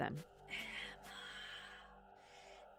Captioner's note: ghostly voice